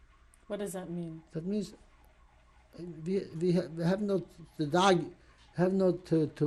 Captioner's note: yiddish